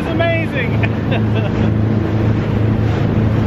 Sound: chuckles

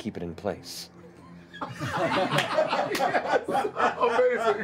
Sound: laughter

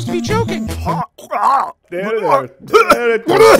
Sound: strained gagging noises

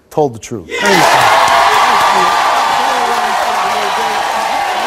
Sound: audience cheers

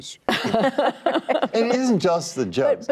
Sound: laughter

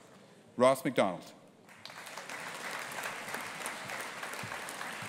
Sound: audience applauding

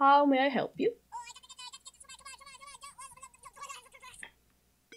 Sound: high-pitched sounds over the phone

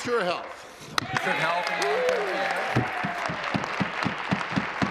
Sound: applause

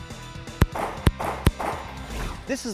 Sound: gunfire

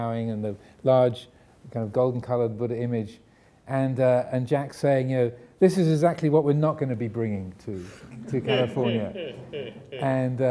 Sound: audience laughing

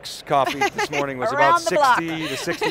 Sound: laughs

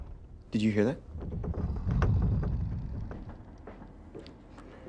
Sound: more creaking

